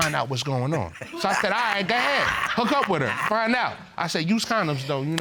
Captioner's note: chuckles